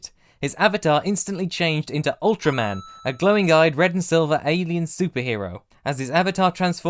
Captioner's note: ding!